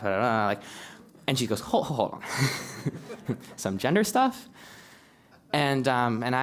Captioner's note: laugh